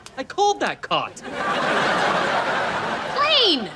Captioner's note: laughs